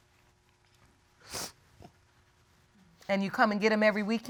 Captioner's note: sniffles